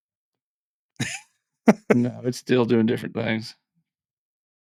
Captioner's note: laughing